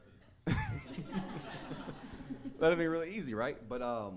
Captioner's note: audience laughing